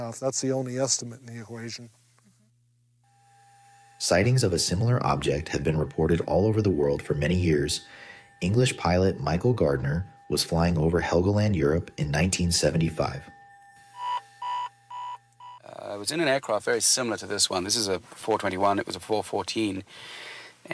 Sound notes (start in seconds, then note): 14.1 control panel beeps